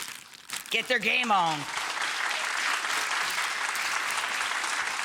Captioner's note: audience applauding